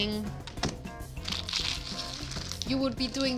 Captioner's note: leaves crunching